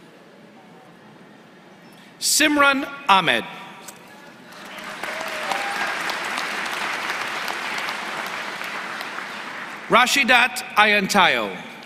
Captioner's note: applause